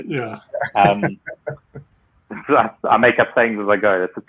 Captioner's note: laughs